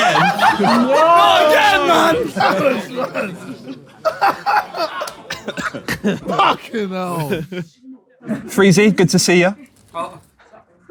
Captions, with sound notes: - Not again. - Not again, man! [audience member laughing] - F*cking hell. - Freezy, good to see ya.